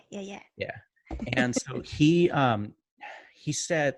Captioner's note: chuckles